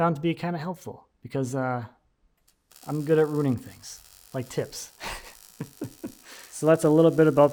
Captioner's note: chuckles